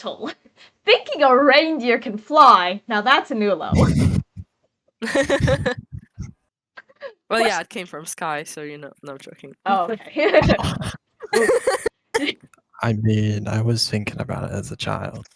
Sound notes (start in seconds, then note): 5.0 chuckles; 5.0 laughs; 10.4 laughs; 10.4 laughs devilishly; 10.4 laughs exasperated